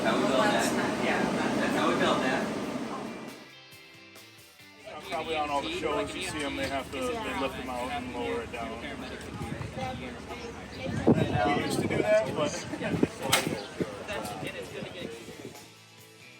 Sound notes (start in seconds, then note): 3.3 light music; 9.5 overlapping chatter; 16.2 light music